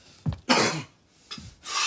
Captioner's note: coughs